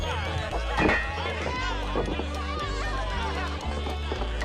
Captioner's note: bottles clinking